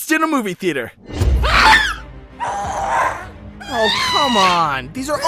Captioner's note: scream